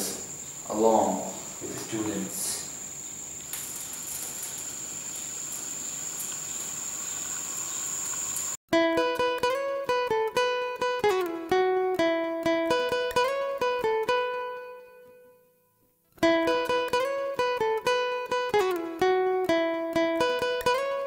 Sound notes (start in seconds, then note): 2.8 fire going out